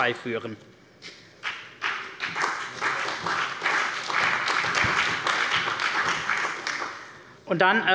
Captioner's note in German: Beifall bei der CDU und dem BÜNDNIS 90/DIE GRÜNEN